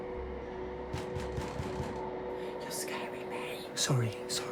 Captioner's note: Sonny pounding on door